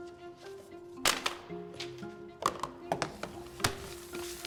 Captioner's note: letters thumping